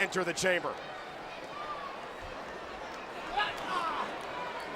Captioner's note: crowd murmuring